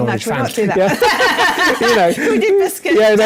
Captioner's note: laughter